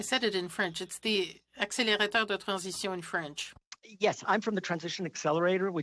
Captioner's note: speaking French